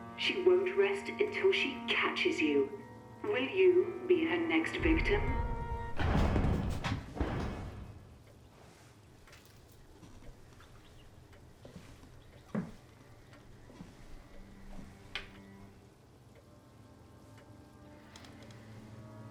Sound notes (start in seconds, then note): 6.3 dramatic music; 11.6 footsteps tap; 15.7 soft, foreboding music